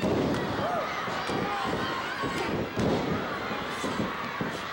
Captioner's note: floor banging; audience cheering